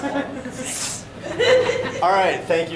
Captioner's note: audience giggling